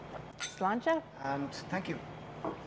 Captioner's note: glasses clink